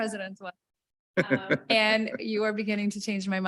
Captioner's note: chuckling